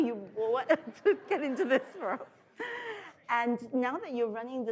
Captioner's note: laughing